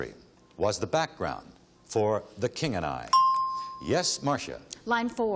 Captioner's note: ding